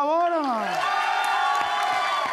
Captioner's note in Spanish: Público ovaciona